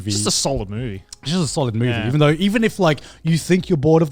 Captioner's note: none